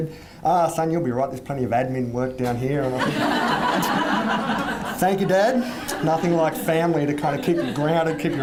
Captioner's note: audience laughs wildly